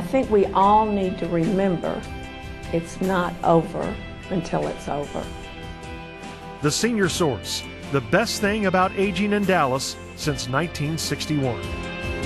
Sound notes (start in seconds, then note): 6.9 voiceover